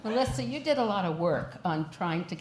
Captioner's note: laughter